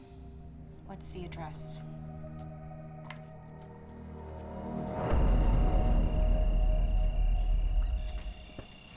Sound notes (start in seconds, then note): 3.3 slow ominous music; 3.7 crickets chirping